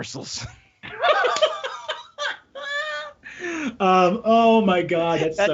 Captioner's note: laughing